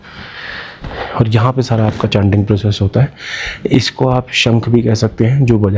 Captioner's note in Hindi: गहरी सांस लेने की आवाज़